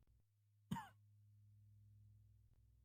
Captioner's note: cough